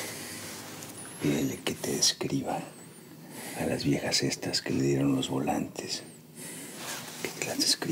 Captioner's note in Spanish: en voz baja